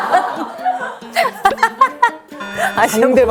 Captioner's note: haha!